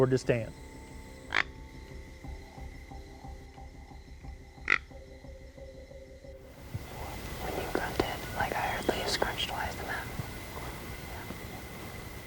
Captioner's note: whispering